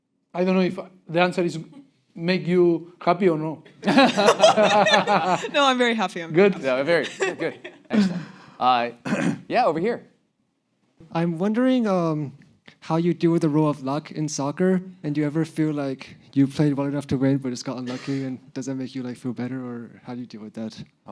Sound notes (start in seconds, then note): 3.8 laughs